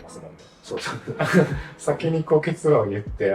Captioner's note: laughs